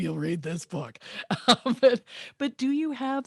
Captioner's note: she laughs